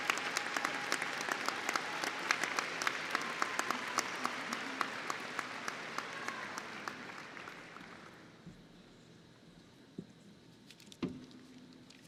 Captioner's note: applause